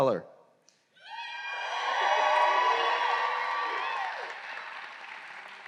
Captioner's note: audience cheering and applause